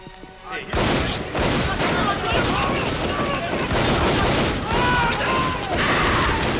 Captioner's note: gunfire clattering; people screaming